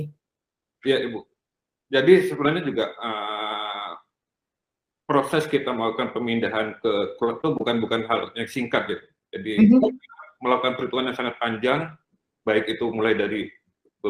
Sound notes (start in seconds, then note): 5.4 non-english speech